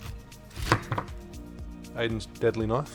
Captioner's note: thuds